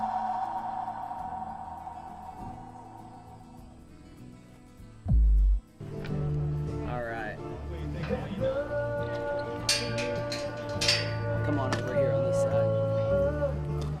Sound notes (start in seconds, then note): 0.2 logo clicking; 1.1 guitar playing; 9.3 metal jingles on pen